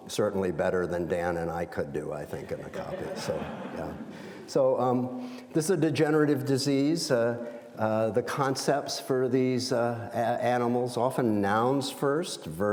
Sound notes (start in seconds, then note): 2.6 audience laughs